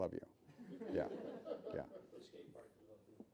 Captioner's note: laughing